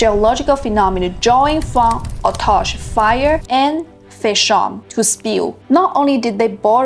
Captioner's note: fire